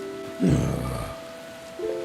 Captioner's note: groans